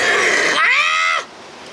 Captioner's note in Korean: 샤우팅